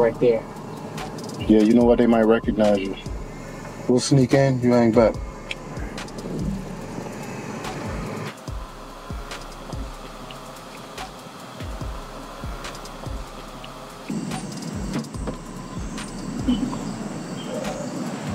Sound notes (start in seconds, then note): 5.9 midtempo hip hop music; 14.5 birds chirping